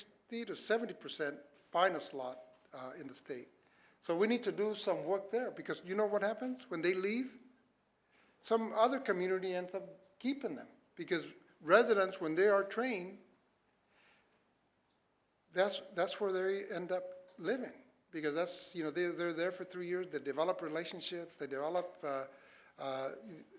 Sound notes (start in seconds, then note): none